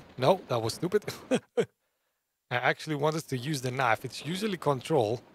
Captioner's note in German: Lacht